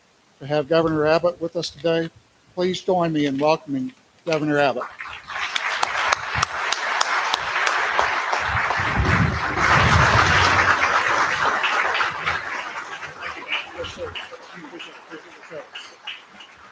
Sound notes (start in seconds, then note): 4.3 applause